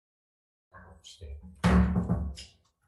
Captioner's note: gavel bangs